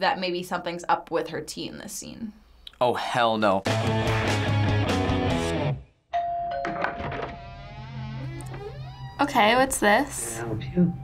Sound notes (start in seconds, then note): 3.6 punk rock intro; 6.1 doorbell rings; 6.7 door creaks